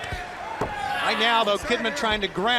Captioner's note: crowd chatter